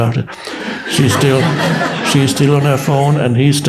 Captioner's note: audience laughs